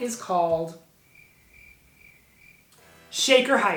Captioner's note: crickets chirping